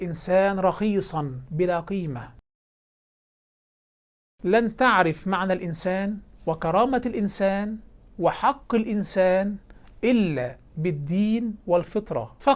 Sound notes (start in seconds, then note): 2.4 silence